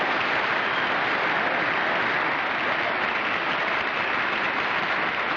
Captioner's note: applause